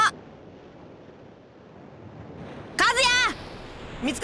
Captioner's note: silence